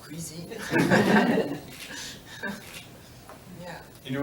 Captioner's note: laughter